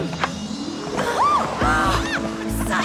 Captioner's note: gasps